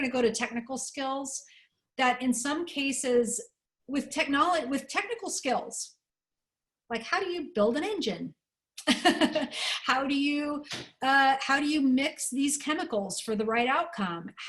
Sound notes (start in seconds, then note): 8.8 laughter